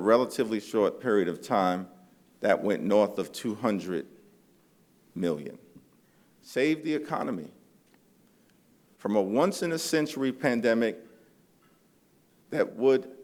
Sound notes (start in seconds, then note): none